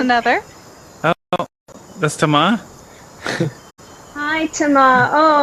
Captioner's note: laughs